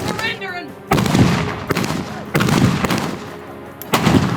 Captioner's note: gun banging